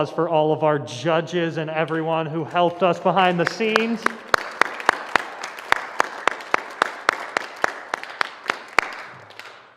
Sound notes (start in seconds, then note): 2.4 applause